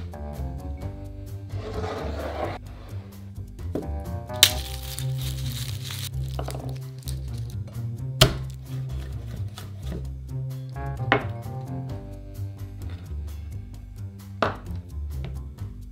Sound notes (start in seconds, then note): 4.4 garlic paper rustling